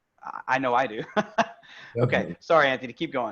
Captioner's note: laughing